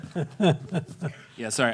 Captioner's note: chuckling